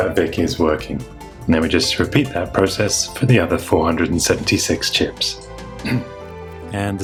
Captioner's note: clears throat